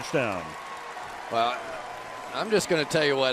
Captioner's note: cheering